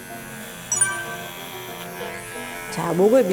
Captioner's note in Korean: 효과음/띠링 하는 소리